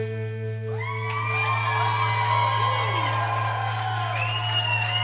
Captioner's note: audience applauding and cheering